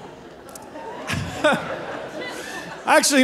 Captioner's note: laughing